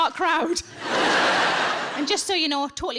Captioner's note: audience laughing